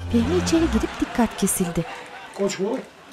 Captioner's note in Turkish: Kahkaha sesleri